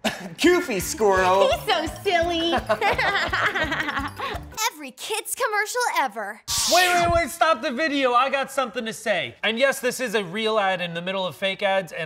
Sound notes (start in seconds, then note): 0.1 laughs; 2.6 laughs